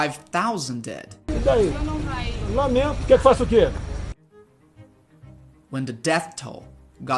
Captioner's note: speaking portuguese